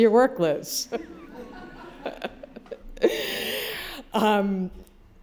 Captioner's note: laughter